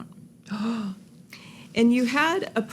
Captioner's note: gasps